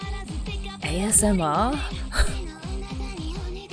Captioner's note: laughs